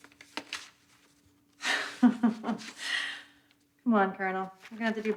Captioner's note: laughs